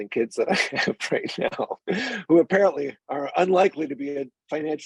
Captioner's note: chuckling